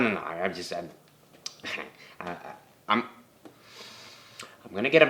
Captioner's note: detective stammers